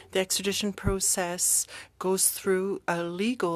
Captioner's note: speaking french